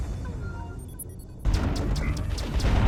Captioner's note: boom; pew-pew-pew; pew-pew